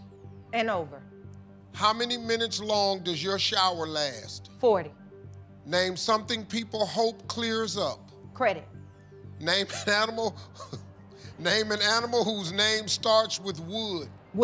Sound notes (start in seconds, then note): 9.5 laughing